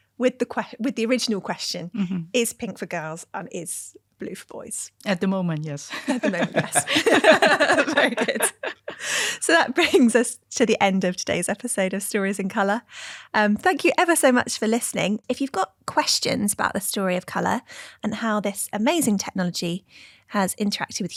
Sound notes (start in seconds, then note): 5.9 all laughing